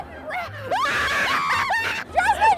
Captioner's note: screams